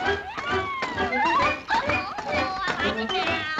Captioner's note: Olive squeals cheerfully; bright marching music